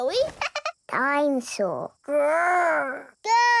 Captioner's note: chuckles